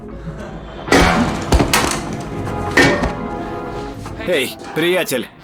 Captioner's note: crack on head